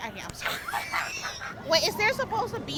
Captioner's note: laughs